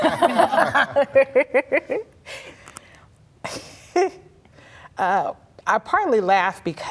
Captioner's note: laughter